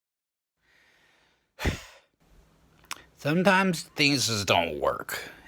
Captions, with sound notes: *sigh* Sometimes, things just don't work.